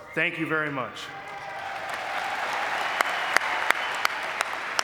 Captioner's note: audience clapping